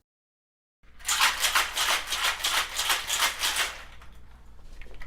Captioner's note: cocktail shaker shakes